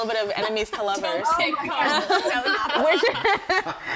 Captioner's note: faintly speaking; everyone laughing